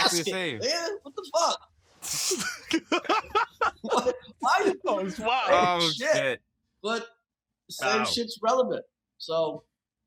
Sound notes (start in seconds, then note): 2.4 laughter; 2.6 all laugh